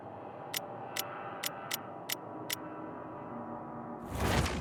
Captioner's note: menu clicking; tense music